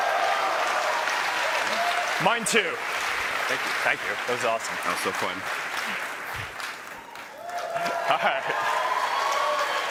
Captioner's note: laughter and applause